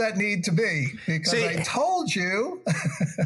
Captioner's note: laugh